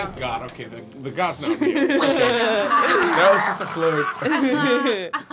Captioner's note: slashing and snarling